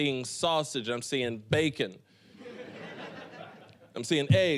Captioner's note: audience laughing